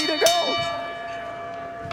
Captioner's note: bell rings